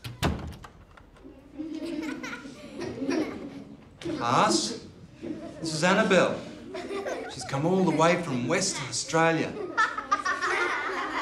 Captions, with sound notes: (laughter) Class this is Annabelle She's come all the way from Western Australia